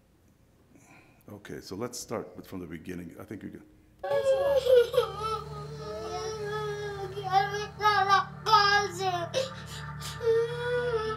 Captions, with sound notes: Okay, so let's start from the beginning, I think you can. (crying) (Spanish speaking)